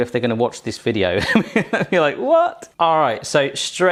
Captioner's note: laughs